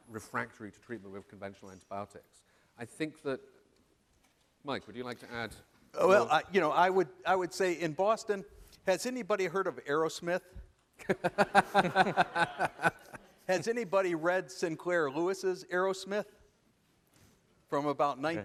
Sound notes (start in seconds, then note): 11.0 laughter